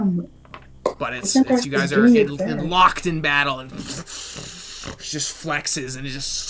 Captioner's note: fighting sounds